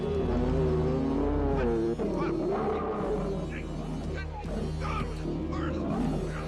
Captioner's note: moves to deep tense music; bear roaring; Pa Weaver yelling